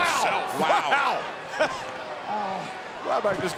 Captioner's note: laughs